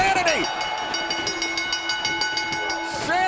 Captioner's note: bell ringing